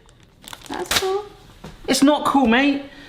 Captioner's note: sheets slap on counter